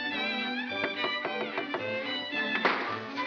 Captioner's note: tapping; bang